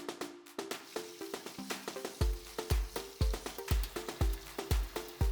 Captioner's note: water sloshing